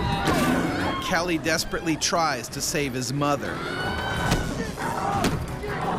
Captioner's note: voiceover